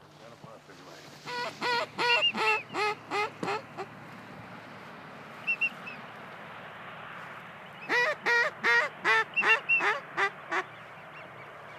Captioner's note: duck calls